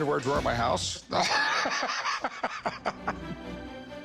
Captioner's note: all chuckling